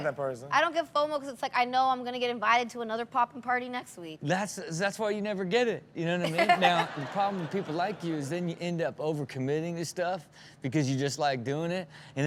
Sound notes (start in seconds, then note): 6.2 Chanel chuckles; 6.3 audience laughs